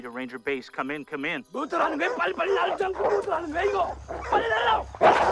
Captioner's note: dogs Barking; snarling